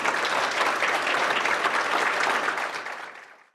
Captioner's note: audience applauding